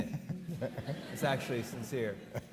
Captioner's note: audience laughing